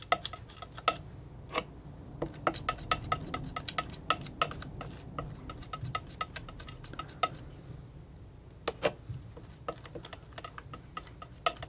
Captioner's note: scratching